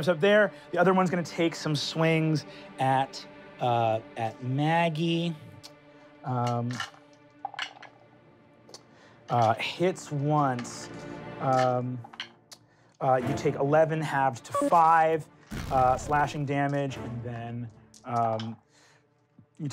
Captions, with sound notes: - Jumps up there, the other one's gonna take some swings at Maggie (rolling dice) Hits once, you take 11 halved to five slashing damage and then you take 11, 12,